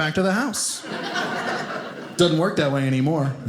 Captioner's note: audience laughing